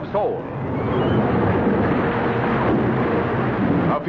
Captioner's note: fire roars